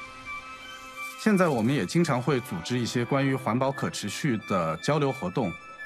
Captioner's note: non-english speech